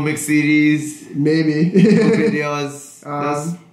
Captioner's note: laughs